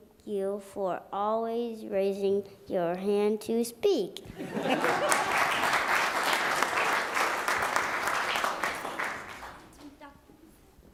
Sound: applause

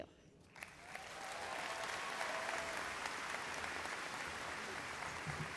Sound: audience applauds

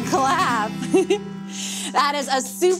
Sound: chuckles

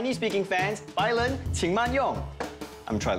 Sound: speaks Chinese phrase

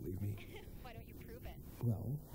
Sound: laughs

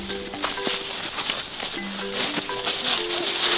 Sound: footsteps rustle

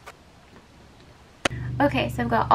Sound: clap

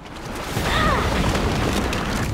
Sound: groaning

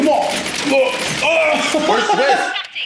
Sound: laugh

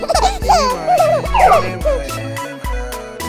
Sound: baby laughing

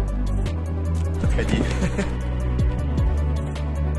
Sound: foreign; giggle

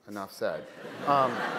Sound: laughter

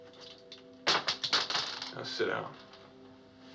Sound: bullets Clatter

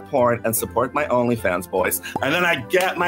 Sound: pop

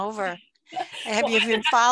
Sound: chuckles

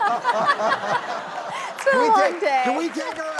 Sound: crowd laughs

